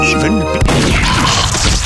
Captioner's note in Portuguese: explosão da espingarda